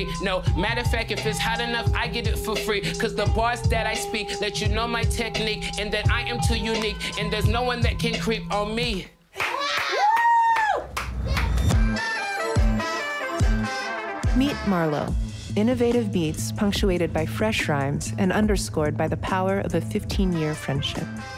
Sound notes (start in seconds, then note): 9.4 cheering